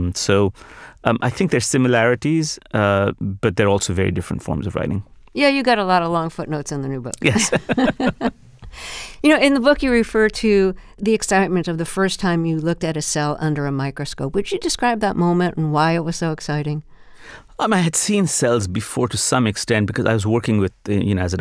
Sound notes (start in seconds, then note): 7.2 laughter